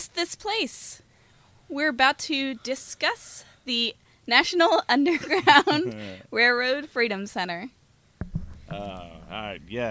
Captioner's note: laughter